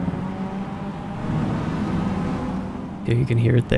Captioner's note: exuberant revving